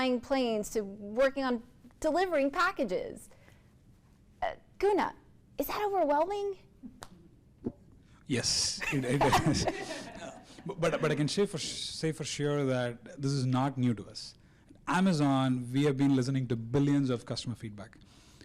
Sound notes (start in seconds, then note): 8.8 laughing